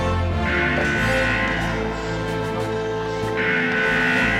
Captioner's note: alarm wailing